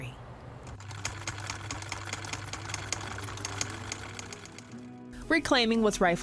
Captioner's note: sewing machine chucking